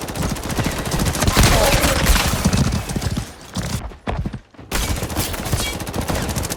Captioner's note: dying horse noises